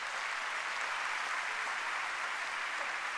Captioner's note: applause